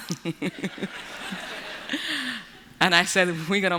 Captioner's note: laughter